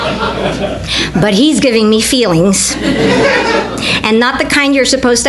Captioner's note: audience laughter; audience laughter